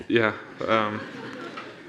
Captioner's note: audience laughing